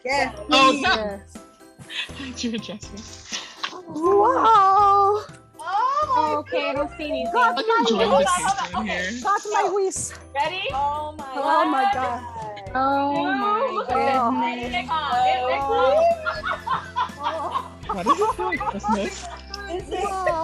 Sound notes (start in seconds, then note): 5.7 group exclaiming in delight; 9.5 group chattering